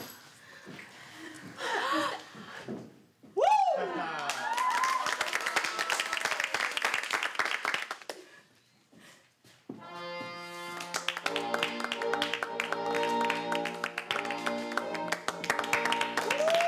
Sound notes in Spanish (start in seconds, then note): 5.1 exclamaciones; 7.9 aplausos